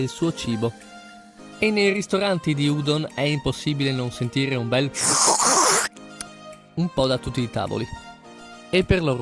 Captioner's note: udon backwash